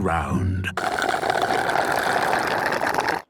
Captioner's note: slurping